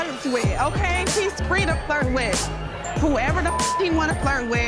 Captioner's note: beep